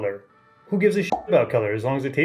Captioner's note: pop